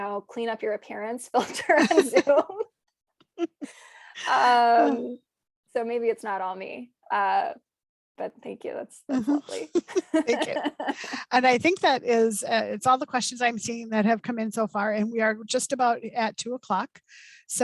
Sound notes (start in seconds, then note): 9.2 laughs; 9.2 chuckles